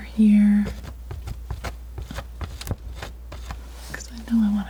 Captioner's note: scratching